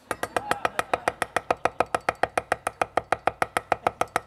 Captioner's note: chopping sounds